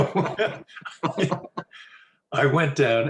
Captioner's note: both laugh